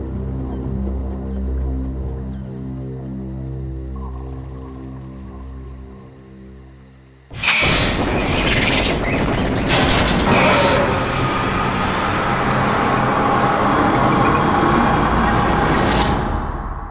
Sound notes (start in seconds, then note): 7.6 violent squeal; 9.3 deep roar